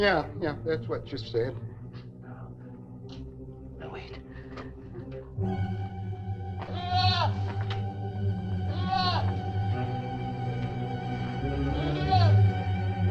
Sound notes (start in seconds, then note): 6.6 goat bleating; 7.0 suspenseful music